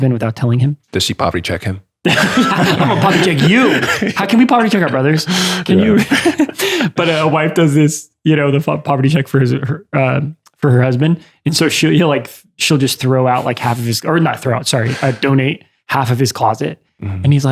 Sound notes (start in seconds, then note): 2.0 laughter; 5.1 chuckles